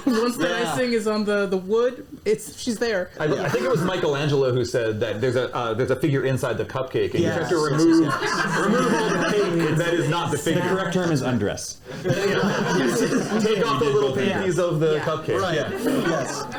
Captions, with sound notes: Once the icing is on the wood, it's-- she's there. I think it was Michelangelo who said that there's a figure inside the cupcake. Yes. You have to remove-- remove all the pigment That is not the figure. The correct term is undress. [laughter] You take off the little panties of the cupcake. Right. -Yes.